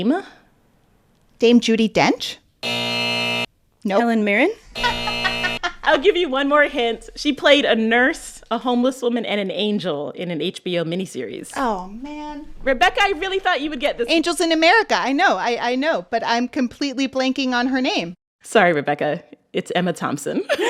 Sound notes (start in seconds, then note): 2.6 soundbite of buzzer; 4.7 soundbite of buzzer; 4.7 laughter